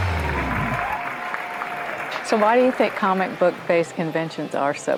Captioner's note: applause